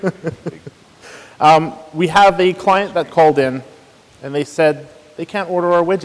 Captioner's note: laughs